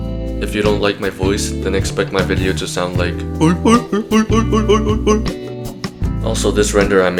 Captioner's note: seal voices